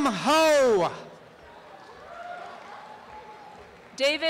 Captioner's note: applause and cheering